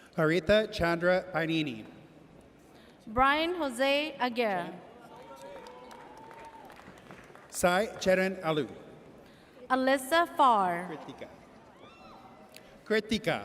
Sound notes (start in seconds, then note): 5.0 audience cheers